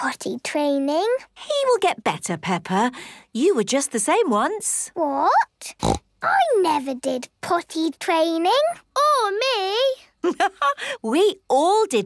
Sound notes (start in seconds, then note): 5.7 snorts; 10.3 laughs